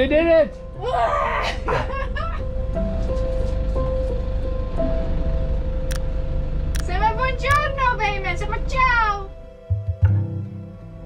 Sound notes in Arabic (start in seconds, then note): 1.4 يضحك; 7.1 يتحدث الإيطالية